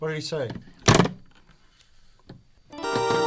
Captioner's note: sound of phone being hung up